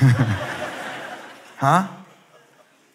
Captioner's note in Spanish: Risas